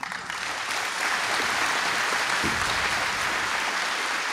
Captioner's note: applause